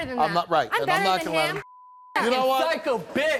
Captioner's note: beep